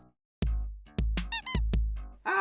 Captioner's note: squeak